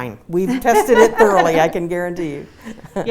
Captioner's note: laugh